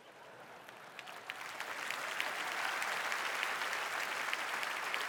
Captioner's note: applause